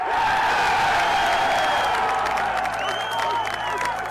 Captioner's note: crowd Applauds